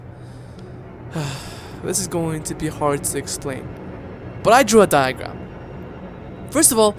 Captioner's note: sigh